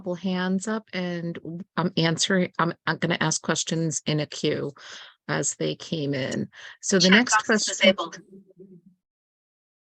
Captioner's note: loud talking in background